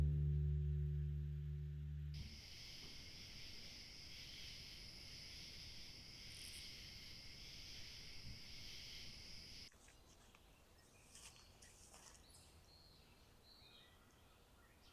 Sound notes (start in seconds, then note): 2.1 night sounds of crickets and frogs; 12.8 birds chirping